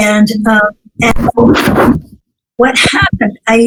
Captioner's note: noise ruffles